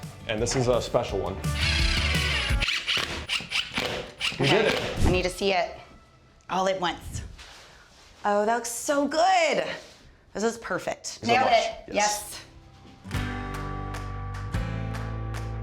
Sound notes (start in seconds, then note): 1.5 drilling; 11.9 gentle music